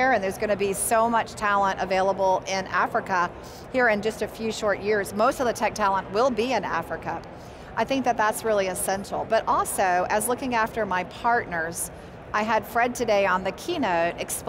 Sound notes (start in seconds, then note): none